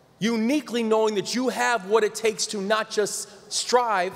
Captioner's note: none